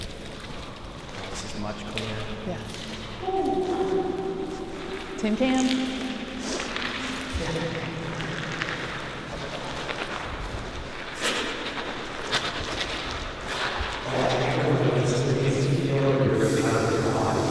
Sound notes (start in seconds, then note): 3.8 echoes in dome; 6.3 footsteps echo